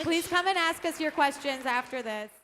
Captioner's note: applauding